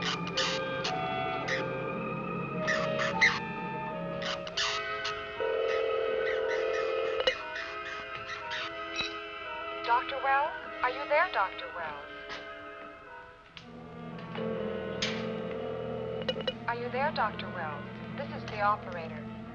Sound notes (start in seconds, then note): 4.8 phone rings; 14.3 ringing